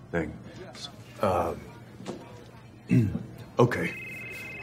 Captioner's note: clears throat